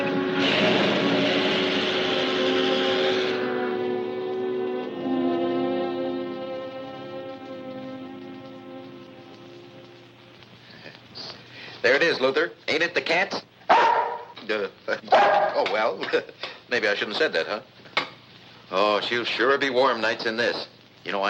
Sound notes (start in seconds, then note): 13.7 Luther barking